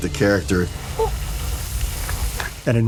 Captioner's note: nate whimpers